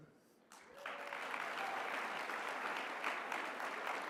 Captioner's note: applause